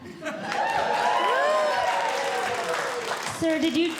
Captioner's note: audience Cheering